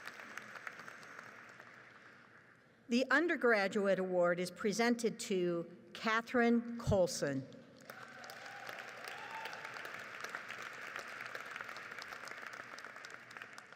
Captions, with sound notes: The undergraduate award is presented to Catherine Colson. (audience applauds)